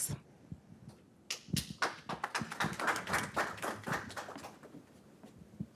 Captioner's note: audience clapping